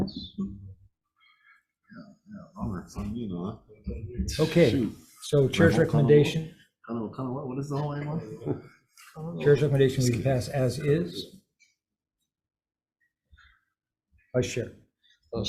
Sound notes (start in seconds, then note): 2.9 person speaks foreign language; 3.9 member speaks foreign language